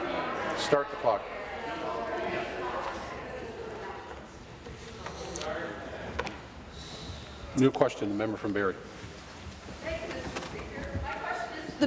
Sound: conversation din

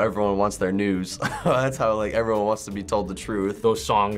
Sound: chuckles

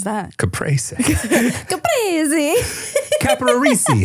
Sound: both laughing

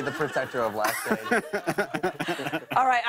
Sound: laughter

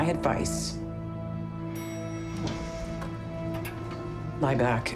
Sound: elevator bell dings

